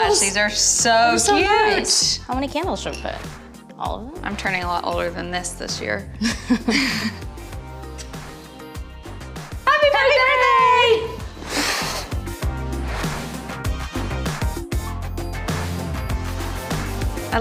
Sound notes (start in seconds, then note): 6.2 laughing; 11.1 air blowing; 13.7 light pop music